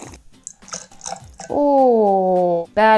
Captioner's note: slurps; liquid sploshes